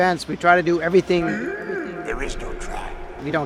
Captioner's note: disappointed Yoda noises